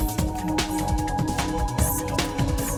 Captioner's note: lady whispering "secrets"